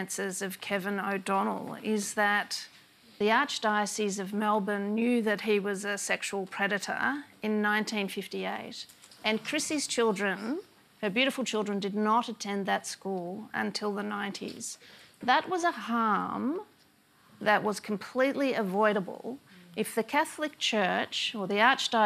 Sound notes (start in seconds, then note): none